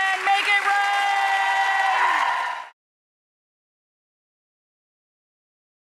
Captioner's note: audience cheers and applauds